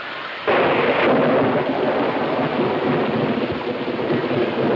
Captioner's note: thunder claps